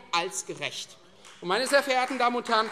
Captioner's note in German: Beifall Freie Demokraten